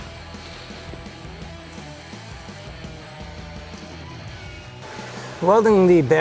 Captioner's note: intense rock music; tool whirring